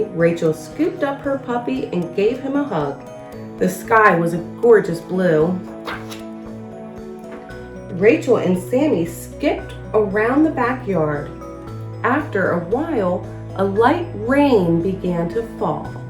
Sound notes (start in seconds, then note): 5.7 uplifting instrumental music; 5.8 pages shuffles